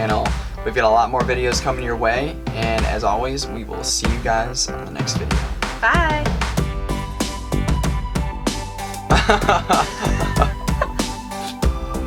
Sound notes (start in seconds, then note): 9.1 laughing